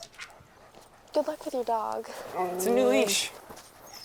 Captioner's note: Buck whimpers